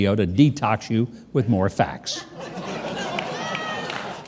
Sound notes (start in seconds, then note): 2.2 audience laughing